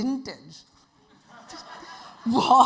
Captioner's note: audience laughing